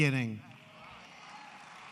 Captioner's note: applause